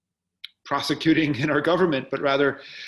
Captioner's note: laughing